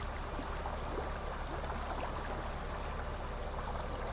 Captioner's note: water lapping